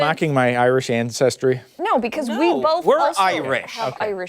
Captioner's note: laughter